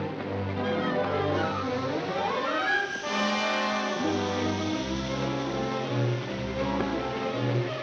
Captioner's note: dramatic music; fuse hissing; dramatic music